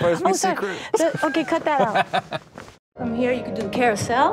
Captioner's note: laughing